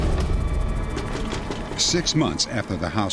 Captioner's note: knocking